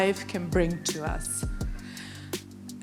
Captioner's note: none